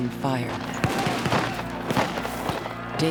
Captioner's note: repeated gunfire